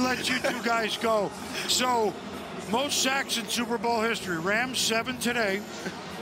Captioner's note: laughter